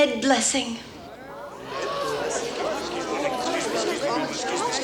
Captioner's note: townsfolk murmur